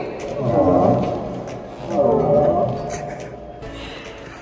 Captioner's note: dinosaur growls